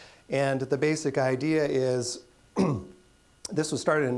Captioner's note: clearing throat